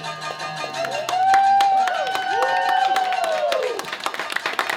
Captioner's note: audience applause